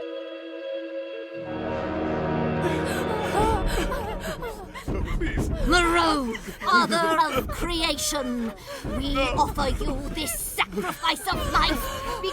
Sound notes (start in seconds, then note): 1.7 tense music; 3.0 woman gasping